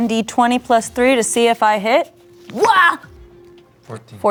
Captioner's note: yelling